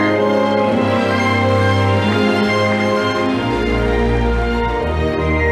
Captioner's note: audience applauding